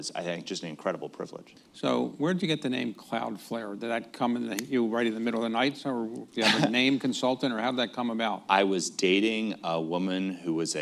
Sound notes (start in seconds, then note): 4.0 snaps fingers; 9.1 laughs